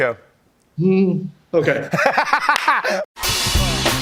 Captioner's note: laughs